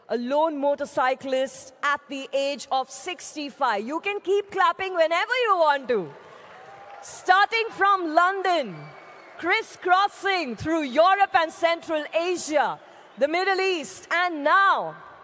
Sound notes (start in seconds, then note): 5.6 cheering/Applause